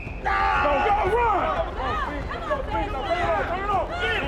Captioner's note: supporters clamoring